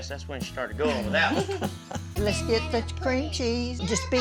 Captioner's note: everyone laughing